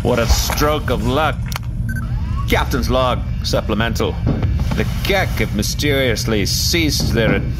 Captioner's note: clicks recorder